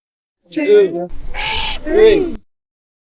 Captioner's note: Screech